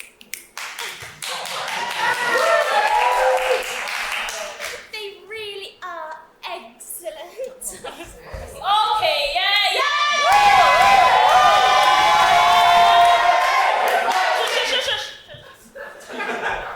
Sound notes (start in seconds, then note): 0.4 audience clapping; 9.8 audience cheer